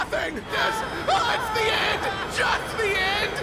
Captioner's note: mom yelling